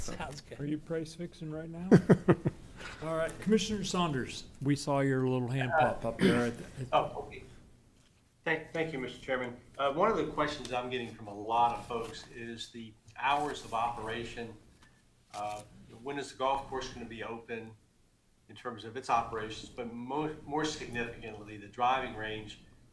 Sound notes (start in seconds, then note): 7.2 laughter